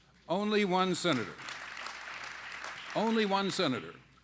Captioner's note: applause